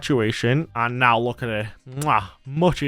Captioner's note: kiss